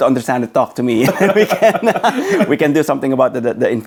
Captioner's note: both laughing